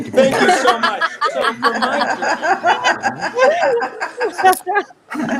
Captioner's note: participants laughing